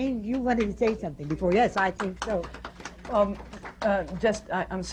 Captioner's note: applause